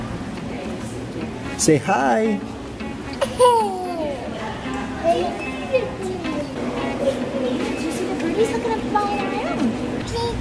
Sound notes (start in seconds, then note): 3.2 laughs